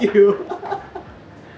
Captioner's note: laughs